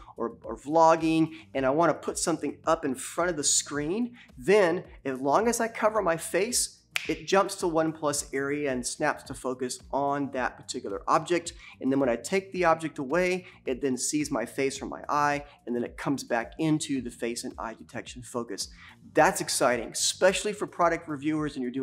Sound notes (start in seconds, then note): 6.9 fingers snap